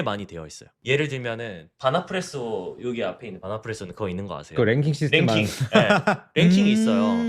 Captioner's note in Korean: 웃음